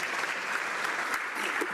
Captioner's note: some Applause